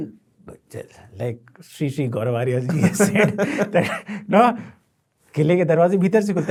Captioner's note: laughing